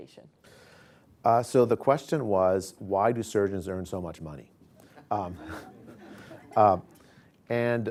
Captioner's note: laughter